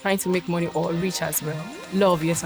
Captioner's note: none